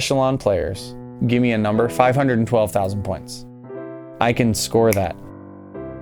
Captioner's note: snaps fingers